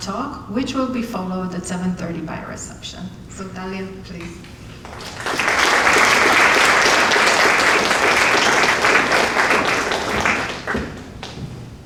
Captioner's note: applause from Audience